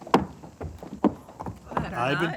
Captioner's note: steps thudding